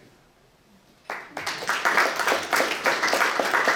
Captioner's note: clapping